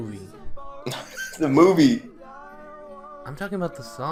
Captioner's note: SkyDoesMinecraft proceeds to laugh